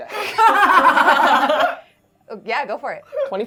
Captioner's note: everyone laughing